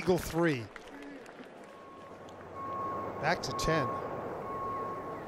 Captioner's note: applause